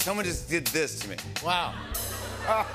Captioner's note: laughter